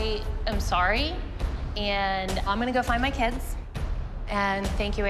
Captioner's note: none